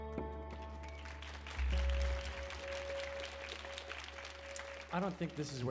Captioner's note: audience applauding